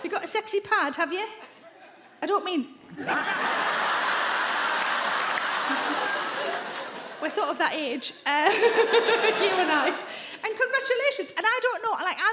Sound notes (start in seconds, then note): 2.9 audience laugh; 8.4 laughs